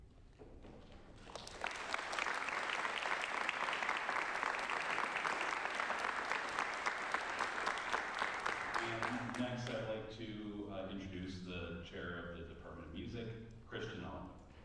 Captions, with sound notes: (applause) Next, I'd like to introduce the chair of the Department of Music, Christian Ellenwood.